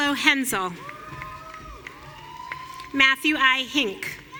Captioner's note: audience cheering